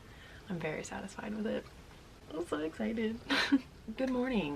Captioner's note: laughs